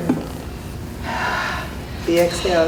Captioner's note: exhales